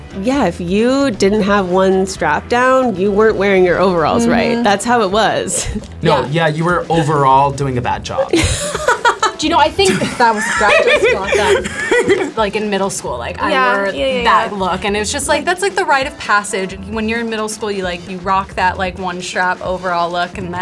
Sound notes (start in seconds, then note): 8.2 laughs